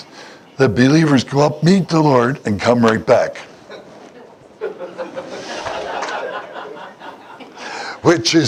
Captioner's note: Смех